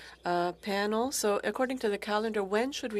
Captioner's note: speaking french